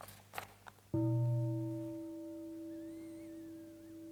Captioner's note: waking the bell - soft bell